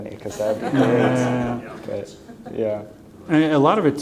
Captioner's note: laughter